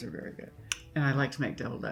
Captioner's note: Jean clicks tongue